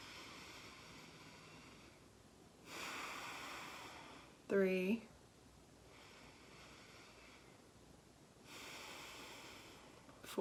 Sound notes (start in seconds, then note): 0.7 inhaling; 2.6 exhaling; 6.2 inhaling; 8.4 exhaling